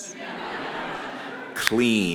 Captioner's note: audience laughs